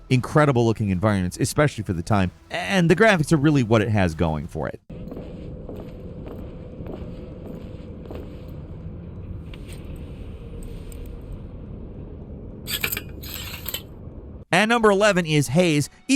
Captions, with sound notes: incredible-looking environments, especially for the time. And the graphics are really what it has going for it. (footsteps padding) (lock scraping) And number 11 is "Haze."